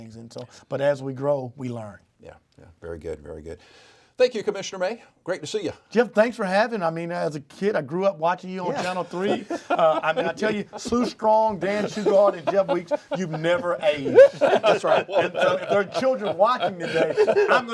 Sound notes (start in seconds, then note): 14.2 all laugh